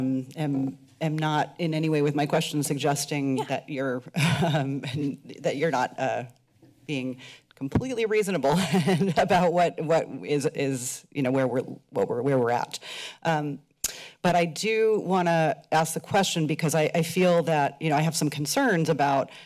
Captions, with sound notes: am-, am not in any way with my question suggesting that you're... - Yeah. - [chuckles] - That you're not, being completely reasonable [chuckles] and about what-, what is-, is, you know, where we're-, what we're-, where we're at. But I do wanna ask the question because I-, I feel that, you know, I have some concerns about,